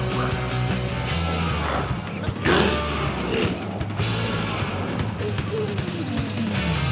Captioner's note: glowzies growling; energetic music continues